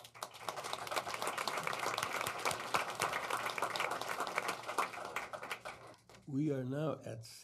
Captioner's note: audience applauding